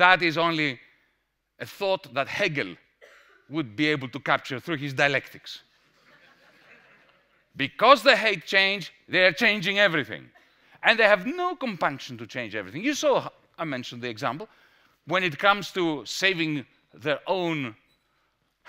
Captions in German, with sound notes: Das ist ein Gedanke, den nur Hegel in seiner Dialektik erfassen konnte. [Gelächter] Weil sie Veränderung hassen, ändern sie alles! Und sie haben keine Hemmungen, alles zu ändern. Ihr habt gesehen – ich habe das Beispiel erwähnt – wenn es darum geht, die eigenen